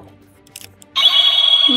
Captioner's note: wand sound